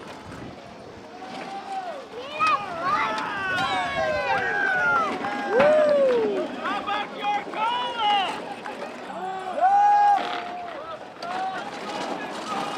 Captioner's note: marching and cheering